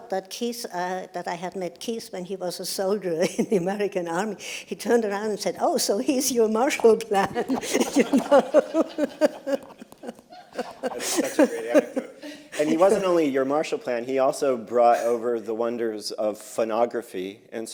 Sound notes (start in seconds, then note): 7.3 laughter